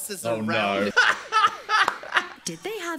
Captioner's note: Dan laughing